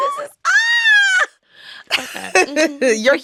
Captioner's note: squealing; laughs